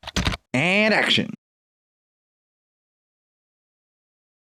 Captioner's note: typing